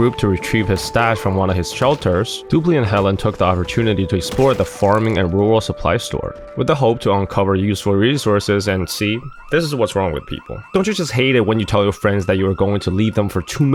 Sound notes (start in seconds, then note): 7.8 triggered alarm